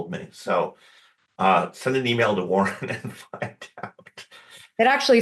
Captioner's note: laughs